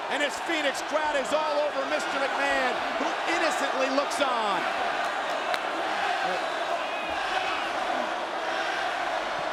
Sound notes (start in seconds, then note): 5.1 audience cheering